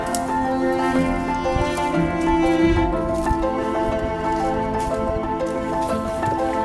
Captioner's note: grass rustling; relaxing music continues